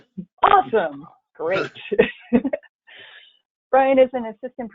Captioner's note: laughs